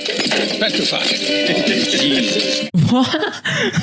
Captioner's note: men laugh